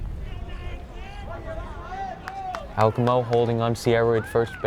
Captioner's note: players yelling in foreign language